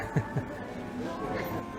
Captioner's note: upbeat music; chuckles; upbeat music